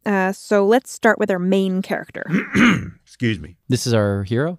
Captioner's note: clears throat